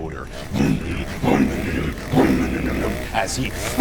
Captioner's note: motor roaring